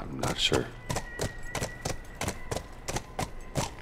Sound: hoofbeat

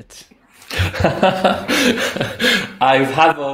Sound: laughter

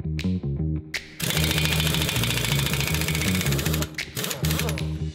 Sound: sound of power tool drilling

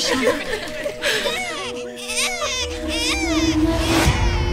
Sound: baby coos

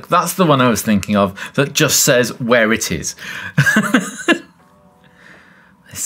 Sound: laughs

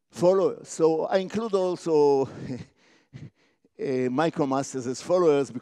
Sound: laugh

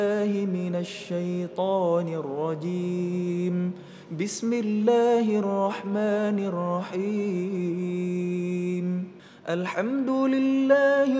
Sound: recites quran

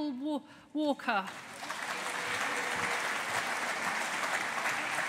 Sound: audience applauding

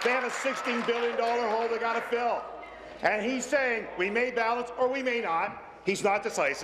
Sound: applause

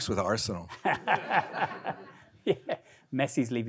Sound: audience laughing

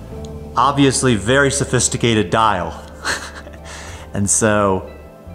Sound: laughs

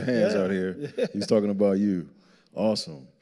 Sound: chuckles

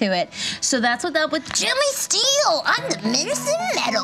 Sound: imitates child voice

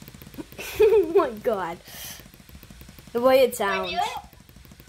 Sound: laughs

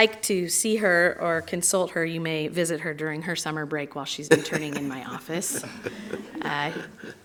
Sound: applause

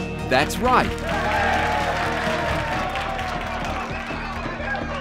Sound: cheers and applause

